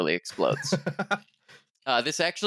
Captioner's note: laughs